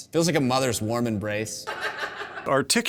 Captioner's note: producers laughing